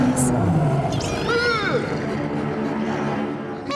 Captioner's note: growling; moaning